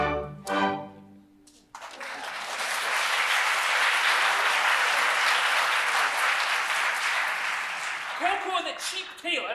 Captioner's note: applause